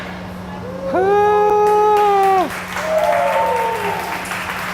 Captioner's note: cheering